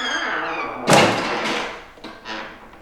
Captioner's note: door crashes against the wall